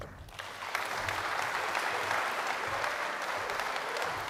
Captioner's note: audience applauds